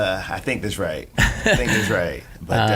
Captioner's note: laughing